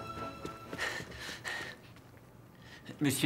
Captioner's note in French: respirant fortement